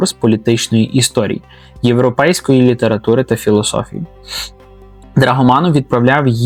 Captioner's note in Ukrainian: сопіння